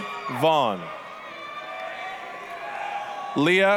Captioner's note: applause, cheering